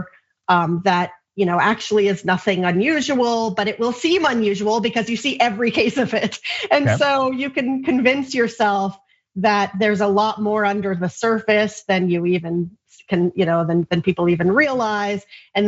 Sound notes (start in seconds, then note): 6.8 laugh